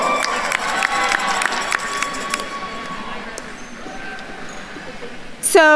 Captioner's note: attendees cheering and applauding